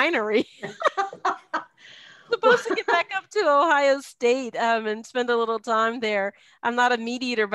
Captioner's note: laugh